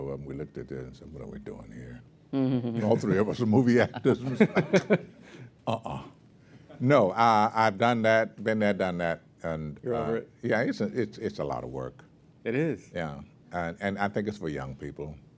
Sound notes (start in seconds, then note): 3.6 laugh